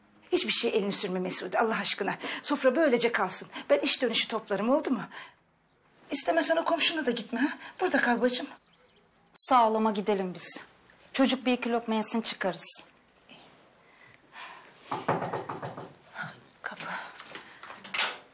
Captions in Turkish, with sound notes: Hiçbir şeye elini sürme Mesude Allah aşkına. Sofra böylece kalsın. Ben iş dönüşü toplarım oldu mu? İstemezsen o komşuna da gitme? Burada kal bacım. Sağ ol ama gidelim biz. Çocuk bir iki lokma yesin çıkarız. (Kapı sesi.) Kapı.